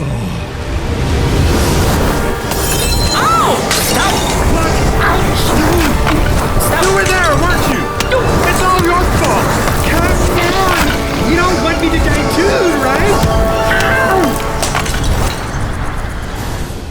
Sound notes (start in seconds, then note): 0.5 strong wind blows; 5.2 grunting